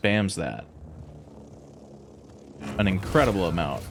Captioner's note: silence